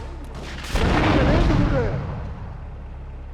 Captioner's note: gunshots; static; ominous music